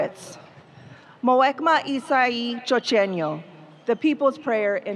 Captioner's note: speaking foreign language